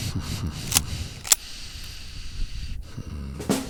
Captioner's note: chambers round